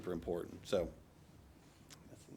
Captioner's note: speaking off microphone